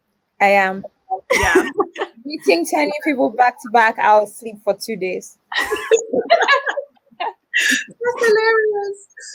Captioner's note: all laugh